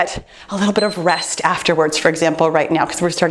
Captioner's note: timer beeps